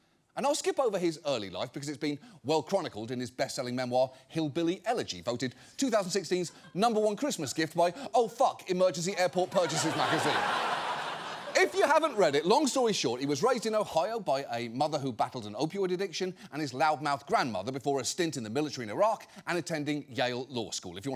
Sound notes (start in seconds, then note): 9.3 studio audience laughing